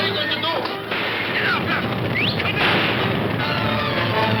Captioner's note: whistles; guns firing; suspenseful orchestral music